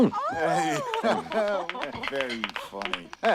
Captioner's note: applause